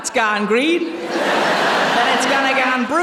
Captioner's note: laughter